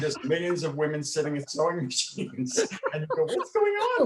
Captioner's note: laughs